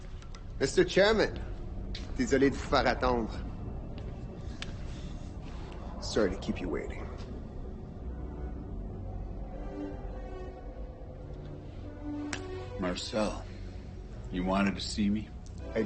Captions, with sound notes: Mr. Chairman. [LaFleur speaking French] Sorry to keep you waiting. [classical music continues] Marcel, you wanted to see me?